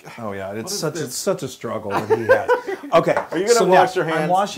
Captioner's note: laugh